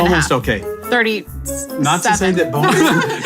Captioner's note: laughing